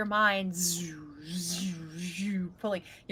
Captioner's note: imitates vibrations